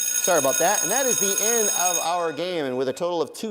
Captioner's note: timer ringing